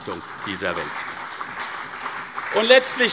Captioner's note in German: Beifall CDU